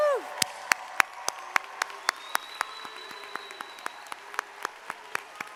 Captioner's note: and audience applauding